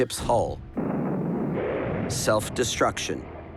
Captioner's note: crashing